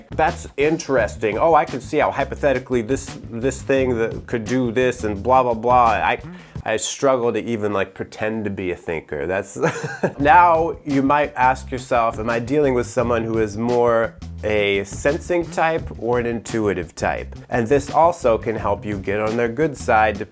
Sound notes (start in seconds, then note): 9.6 chuckles